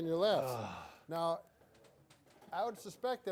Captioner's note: groans